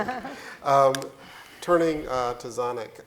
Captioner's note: laughing